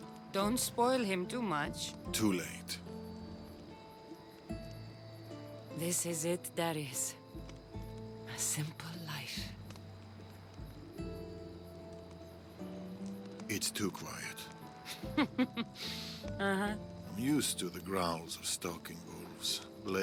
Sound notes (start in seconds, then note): 14.8 laughs